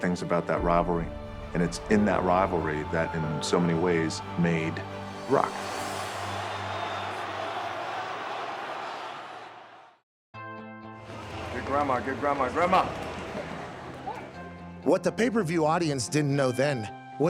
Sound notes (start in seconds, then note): 6.6 crowd murmuring; 10.9 light music